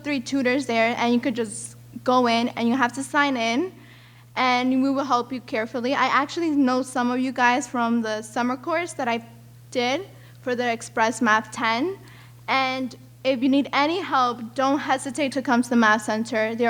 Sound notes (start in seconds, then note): none